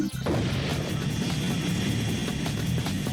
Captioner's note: blast